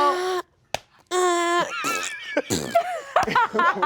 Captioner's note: slaps lap; blows raspberry; all laugh